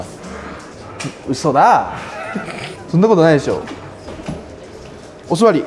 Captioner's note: laughs; laughs